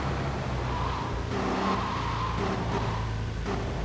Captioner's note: tires screeching